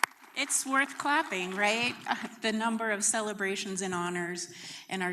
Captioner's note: applause